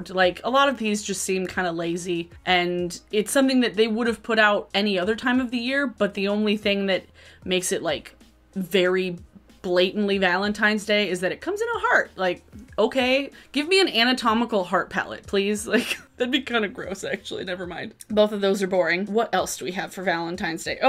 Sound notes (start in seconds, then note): 15.7 chuckles